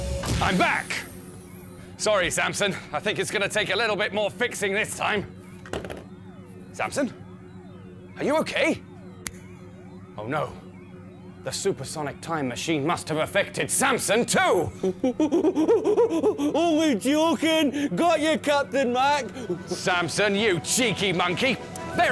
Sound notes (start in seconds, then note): 9.2 click!